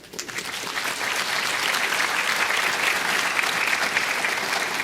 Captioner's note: applause